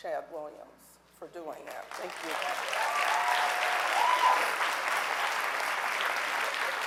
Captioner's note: audience applauding